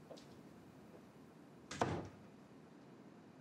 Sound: door closes

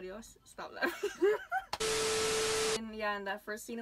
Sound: laughs

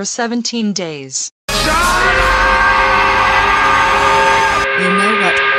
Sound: angry work whistle

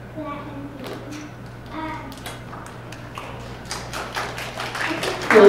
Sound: attendees clapping

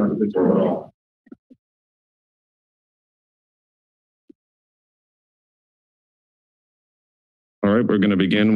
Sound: silence

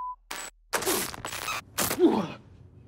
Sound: stabbing

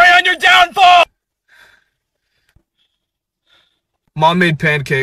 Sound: awkward breathing

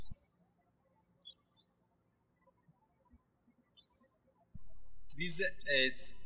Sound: birds chirping

